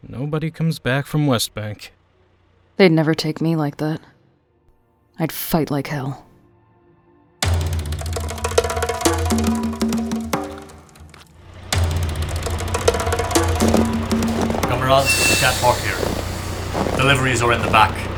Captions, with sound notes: Nobody comes back from West Bank... They’d never take me like that. I’d fight like hell. [Music ramps up] [Footsteps crunch through snow, a truck pulls up] Comrade, you can’t park here. Deliveries are in the back.